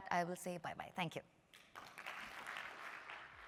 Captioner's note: applause